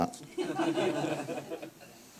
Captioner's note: laughter